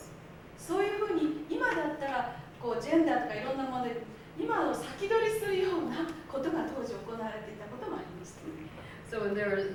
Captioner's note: speaking Japanes